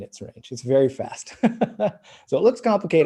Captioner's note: laughing